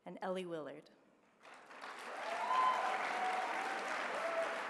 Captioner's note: applause